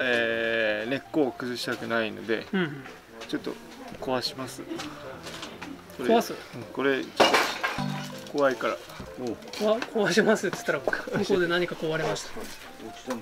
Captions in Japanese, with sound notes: 根を傷つけないために鉢を壊します （鉢が割れる音） 向こうで鉢が壊れました